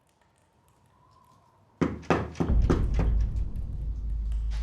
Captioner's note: knocking at door